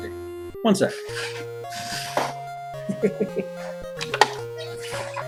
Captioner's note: chuckles